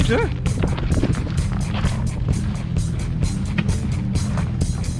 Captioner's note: man exclaims worriedly